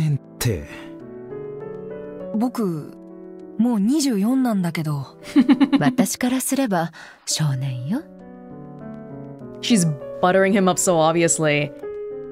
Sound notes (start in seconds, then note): 5.3 chuckles